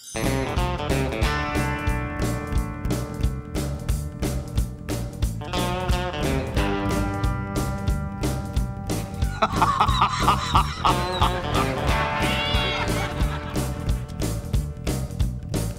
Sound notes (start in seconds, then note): 0.1 upbeat music; 9.2 laughs; 12.2 meow